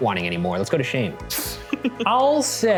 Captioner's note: laughing